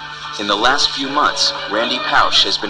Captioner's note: voiceover